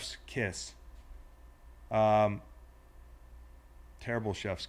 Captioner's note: none